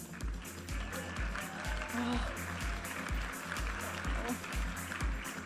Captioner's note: audience applauding and cheering